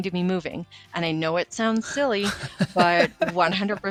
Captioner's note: laughing